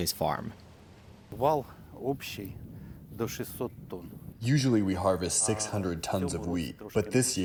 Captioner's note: through translator